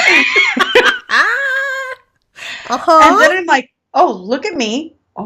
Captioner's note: laughing